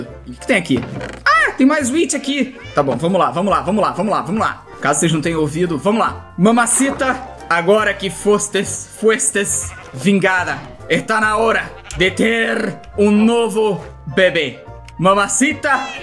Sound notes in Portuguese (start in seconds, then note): 9.0 em "espanhol"